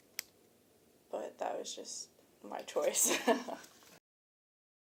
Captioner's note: chuckles